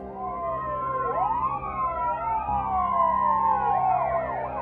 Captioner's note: sirens blare